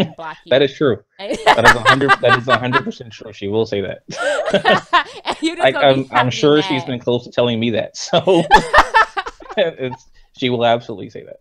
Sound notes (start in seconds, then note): 3.9 laughs